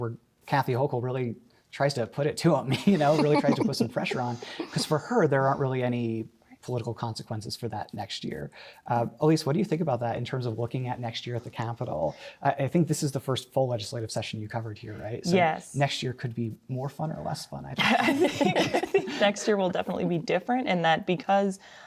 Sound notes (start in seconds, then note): 2.7 laughter; 17.8 laughter